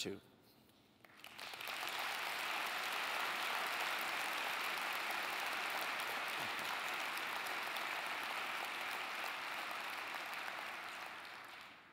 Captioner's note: applause